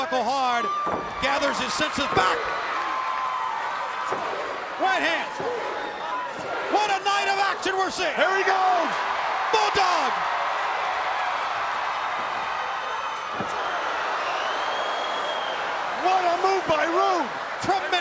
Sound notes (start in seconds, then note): 10.5 crowd cheering